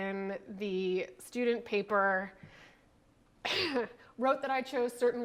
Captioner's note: coughs